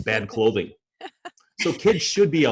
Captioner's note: laughs